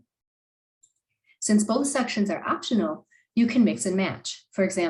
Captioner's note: click